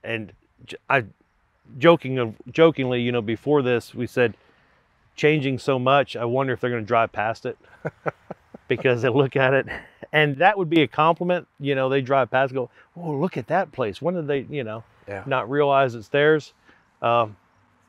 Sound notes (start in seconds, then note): 7.6 laughing